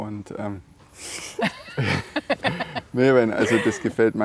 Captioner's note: laughing